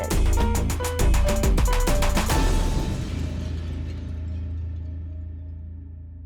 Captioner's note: vibrant music; glass clatters